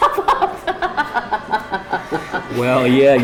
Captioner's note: laughs